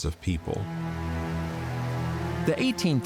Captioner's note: river flowing